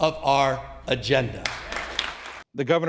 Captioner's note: applause